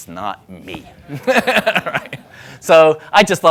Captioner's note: laughing